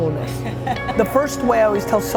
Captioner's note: woman laughing